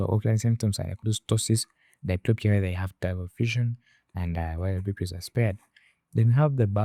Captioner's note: slurred speech